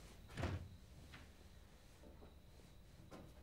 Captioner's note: door rattles